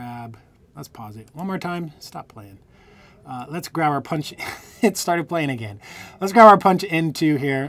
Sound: laughter

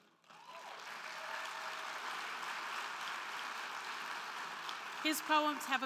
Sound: crowd clapping; crowd cheering

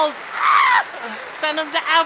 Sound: screaming

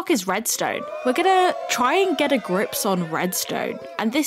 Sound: cheering; cheering continues

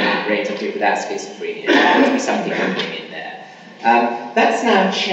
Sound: coughing masks speaker

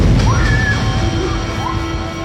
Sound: woman screams

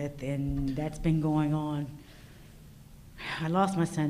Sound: none

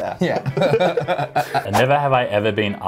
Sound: laughter

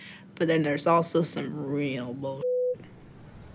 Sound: beep

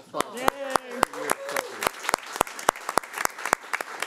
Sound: claps

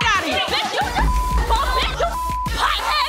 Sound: beep

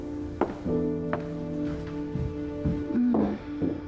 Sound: sighs

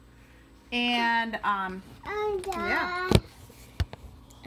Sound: child babbling

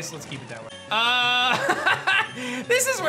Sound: laughs

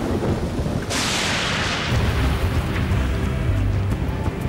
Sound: lightning cracks

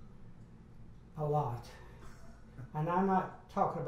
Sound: laughs

